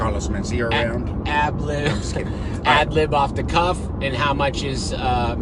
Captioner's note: laughs